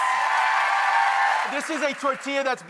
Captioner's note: audience applause